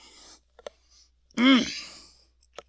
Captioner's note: clears throat